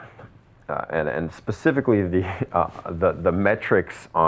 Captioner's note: laughs